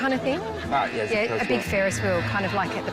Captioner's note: buzzer